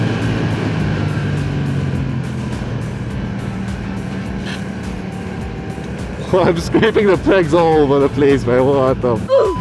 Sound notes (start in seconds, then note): 4.2 Peg scraping